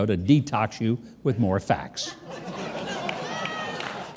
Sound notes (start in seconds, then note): 2.1 audience laughs